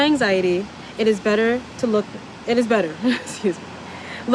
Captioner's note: laugh